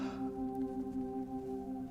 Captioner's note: gasps